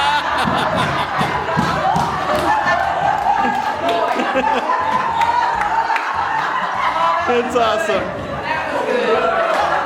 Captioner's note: everyone in the room howls with laughter